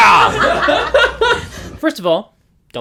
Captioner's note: laughter